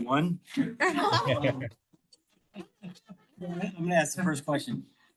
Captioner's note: all laugh